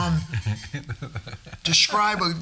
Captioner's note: all chuckling